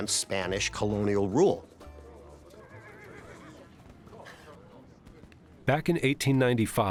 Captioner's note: horse nickering, people chatting